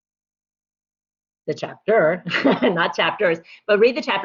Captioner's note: laughter